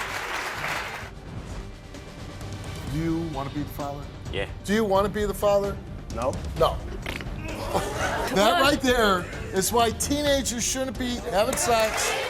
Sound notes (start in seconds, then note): 0.0 audience clapping; 6.8 blowing a raspberry